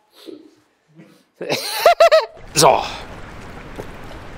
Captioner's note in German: lacht